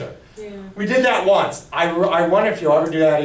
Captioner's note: voiceover